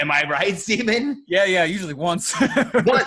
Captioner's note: laughs